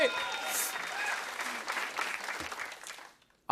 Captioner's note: applause